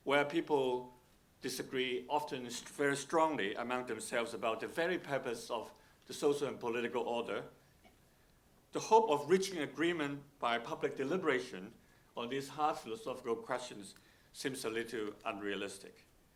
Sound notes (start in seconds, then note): none